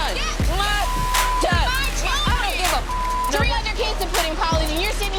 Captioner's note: beep